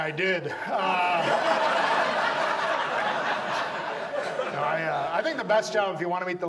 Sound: audience laughs

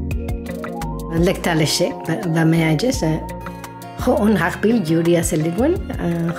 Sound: speaking in foreign language

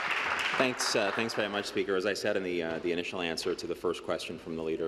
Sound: applause

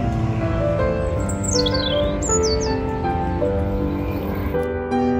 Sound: gentle piano music; birds chirping; gentle piano music

